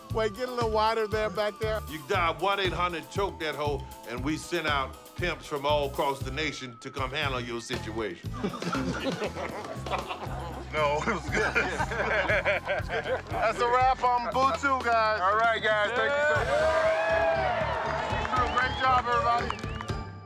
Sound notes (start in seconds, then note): 8.4 crew laughing; 11.8 all laugh; 15.3 all cheer